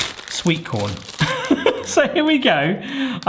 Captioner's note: laughing